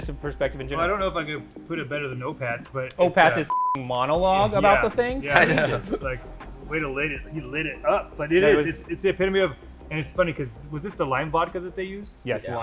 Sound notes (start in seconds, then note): 3.4 beep